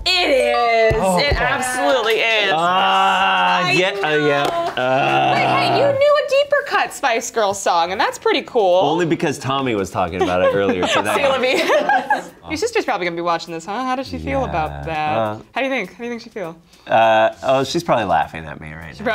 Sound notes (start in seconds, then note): 2.8 groans